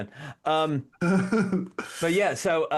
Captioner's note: laughs